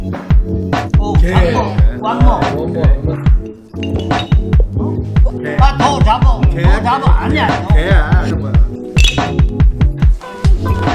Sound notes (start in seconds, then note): 1.7 speaking in foreign language